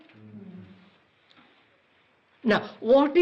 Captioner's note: general assent